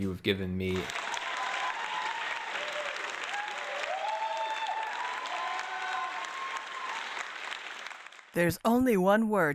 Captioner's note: applause